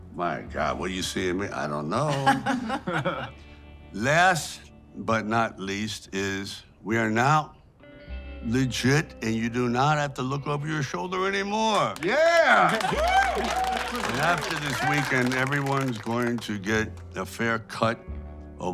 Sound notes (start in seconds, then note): 2.1 Margaret laughs; 11.8 everyone cheers and applauds